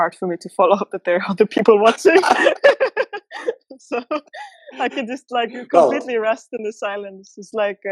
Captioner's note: laughter